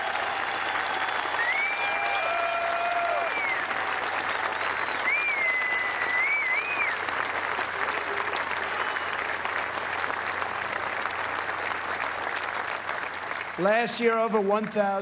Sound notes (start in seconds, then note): 2.9 cheers and applause